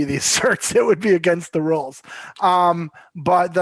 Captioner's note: chuckles